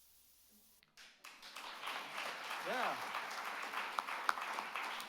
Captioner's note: all clapping